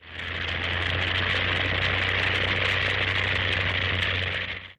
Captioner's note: airplane Rumbles